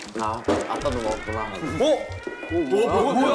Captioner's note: the siren suddenly goes off